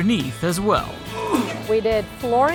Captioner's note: grunting